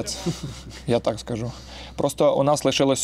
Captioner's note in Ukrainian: сміються